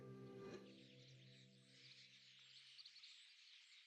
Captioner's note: birds chirping